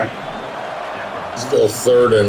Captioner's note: crowd Noises